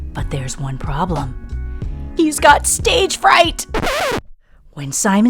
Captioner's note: record scratch